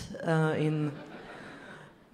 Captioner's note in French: rires